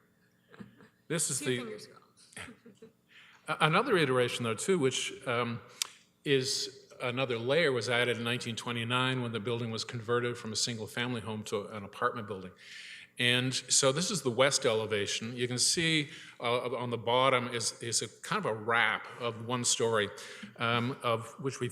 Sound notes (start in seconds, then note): 1.2 chuckles